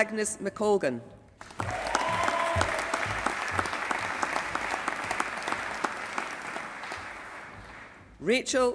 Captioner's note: applause